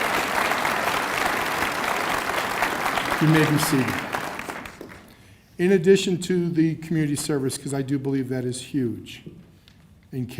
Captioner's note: cheers and applause